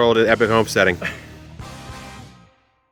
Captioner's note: laughing